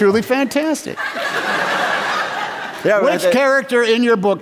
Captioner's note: laughter